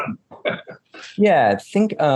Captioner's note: laughing